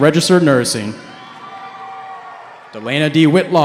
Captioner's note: cheering